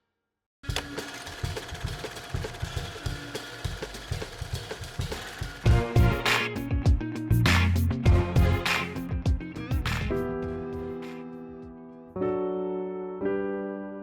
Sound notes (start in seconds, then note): 0.6 film feel rattling; 1.2 faint upbeat music; 6.7 upbeat instrumental music; 9.2 gentle piano music